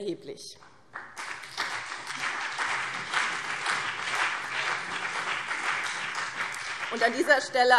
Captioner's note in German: Beifall BÜNDNIS 90/DIE GRÜNEN und CDU